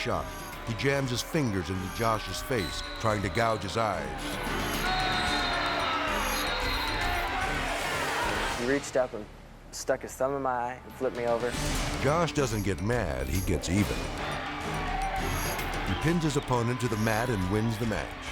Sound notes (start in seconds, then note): 3.4 whistle tweets; 6.0 spectators booing; 13.2 spectators cheering